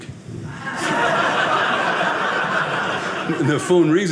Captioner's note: audience laughing